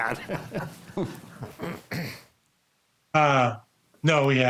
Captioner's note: group laughs